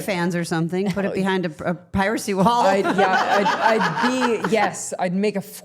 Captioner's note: laughing